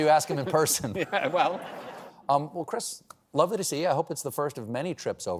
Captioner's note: laughter